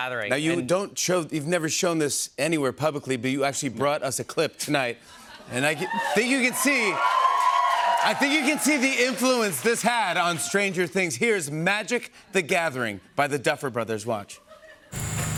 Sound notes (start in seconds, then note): 5.6 cheers and applause